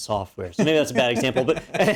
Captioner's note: laugh